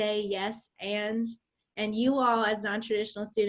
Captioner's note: none